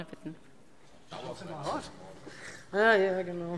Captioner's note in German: Zuruf